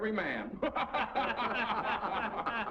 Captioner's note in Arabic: المراسلون يضحكون